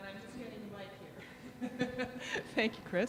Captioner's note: laughter